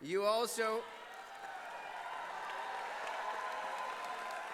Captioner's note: applause